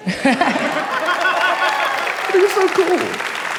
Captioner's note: audience laughing